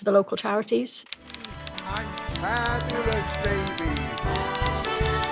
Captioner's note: typewriter noise